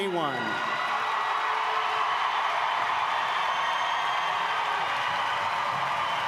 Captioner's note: audience applauding